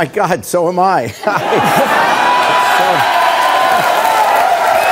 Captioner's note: audience cheering